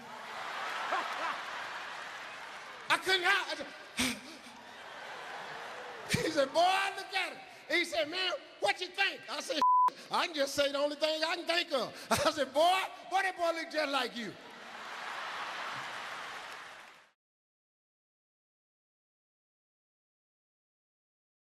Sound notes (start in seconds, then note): 0.0 audience laughs; 9.6 beep; 14.6 audience laughs